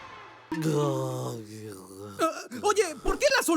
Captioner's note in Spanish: Ben hace sonidos de idiota